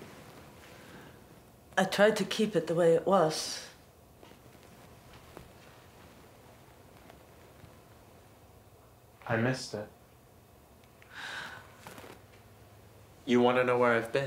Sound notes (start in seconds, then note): none